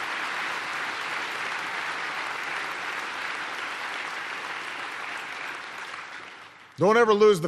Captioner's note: applause